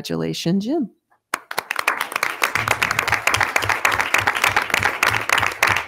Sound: attendees clapping

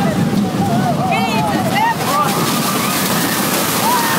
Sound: wind roaring; screaming; man yelling; wind pounding

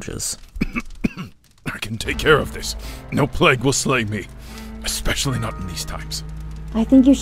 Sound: cough

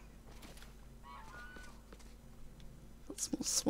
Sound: swan cries

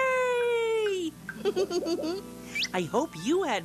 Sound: giggles

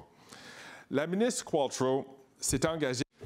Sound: speaking in French

